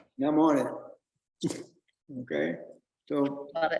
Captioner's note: chuckles